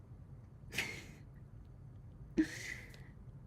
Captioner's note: brief laugh